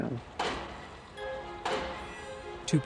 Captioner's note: drivers pounding steel "bang"